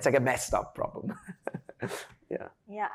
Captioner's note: laughs